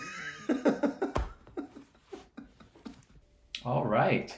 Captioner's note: laughing